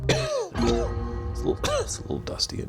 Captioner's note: coughing